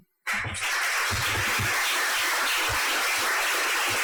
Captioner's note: audience applauds